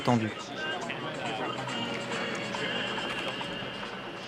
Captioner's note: indistinct conversations